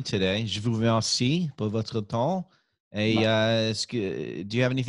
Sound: speaking in French

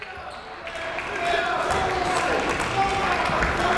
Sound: clapping

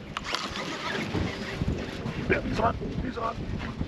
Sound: reel cranking

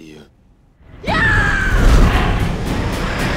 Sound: yelling

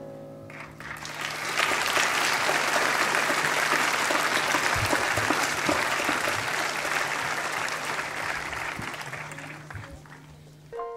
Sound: applause

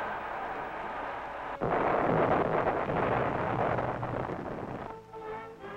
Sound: explosions booming

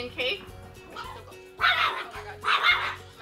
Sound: dog barking

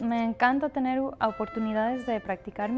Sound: speaking Spanish

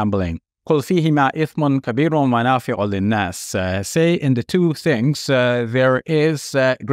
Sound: speaks Arabic

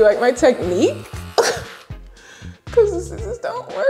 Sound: scoffs

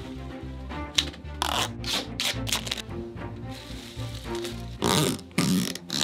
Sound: tape ripping; straps zipping

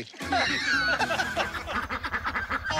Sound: ducks quacking; laughter

